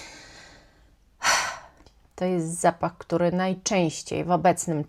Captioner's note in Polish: westchnienie